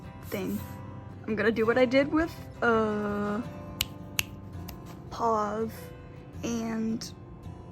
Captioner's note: snapping